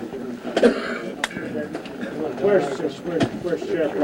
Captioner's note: coughing